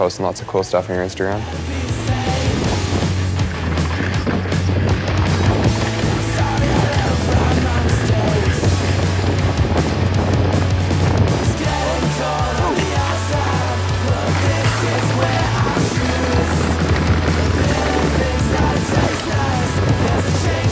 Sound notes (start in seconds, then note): 2.2 hard rock music; 5.5 wind rushing